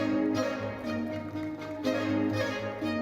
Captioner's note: audience applauding; bright lively music continues